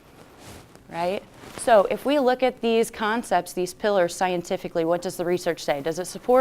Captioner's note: none